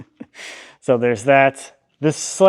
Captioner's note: laughs